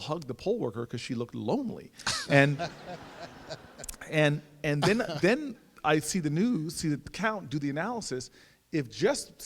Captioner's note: audience laughs